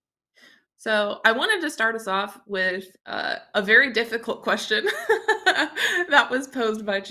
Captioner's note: chuckles